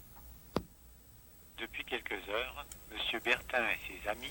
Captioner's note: french